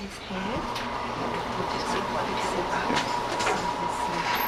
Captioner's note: motor Whirring